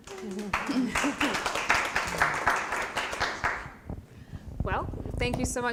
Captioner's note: applause